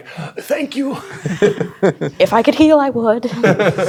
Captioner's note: chuckles